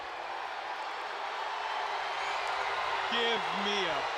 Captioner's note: crowd cheering